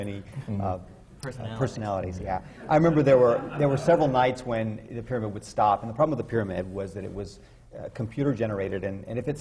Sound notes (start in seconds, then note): 2.6 laughter